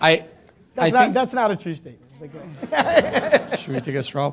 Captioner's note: laughing